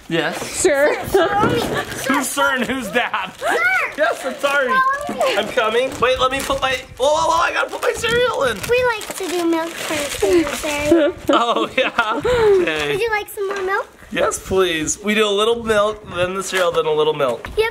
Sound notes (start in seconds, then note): 1.0 laughs; 10.8 laughing